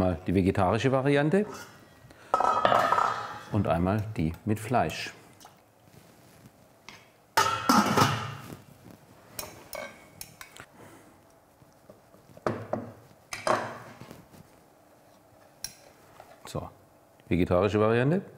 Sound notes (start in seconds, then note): 7.4 pots banging